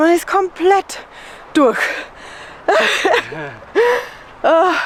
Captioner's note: laughter